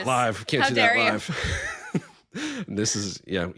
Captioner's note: chuckling